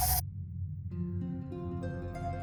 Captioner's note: pleasant morning alarm